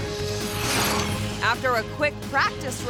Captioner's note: bicycle whooshing